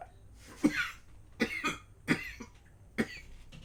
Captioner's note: coughing